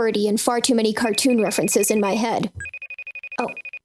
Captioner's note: FaceTime rings over words; ringing continues